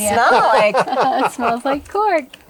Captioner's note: laughs